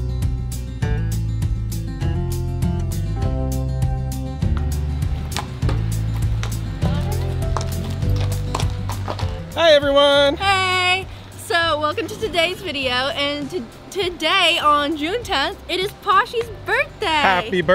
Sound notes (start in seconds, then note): 4.4 Posh's hooves clacking on the ground